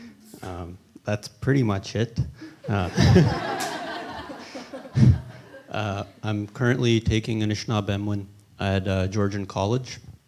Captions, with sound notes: Um, that's pretty much it. Uh.... [laughter] Uh, I'm currently taking Anishinaabemowin at, uh, Georgian College,